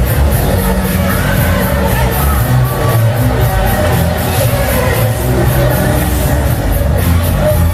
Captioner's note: clap